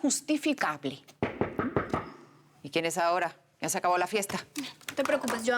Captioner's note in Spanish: Toques en la puerta